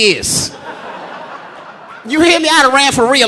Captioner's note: audience laughing